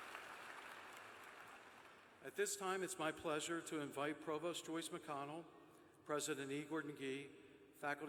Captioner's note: cheers and applause